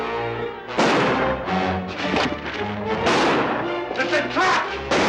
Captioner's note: gunshots